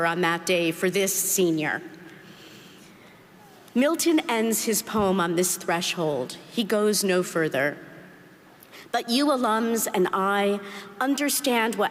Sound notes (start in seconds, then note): none